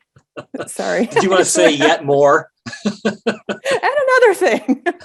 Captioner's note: laughing